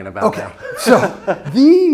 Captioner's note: laughs